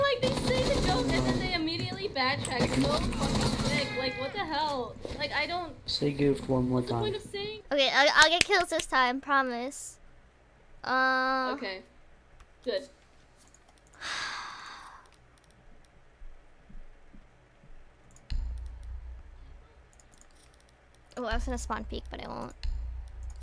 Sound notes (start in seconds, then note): 8.1 clapping; 14.0 sighs